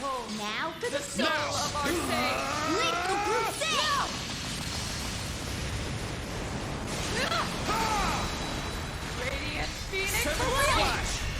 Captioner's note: S-Craft noises